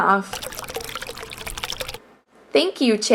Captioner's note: oil pouring sound